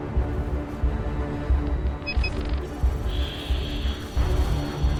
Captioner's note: robotic beeping